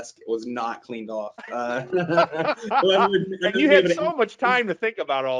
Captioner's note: laughing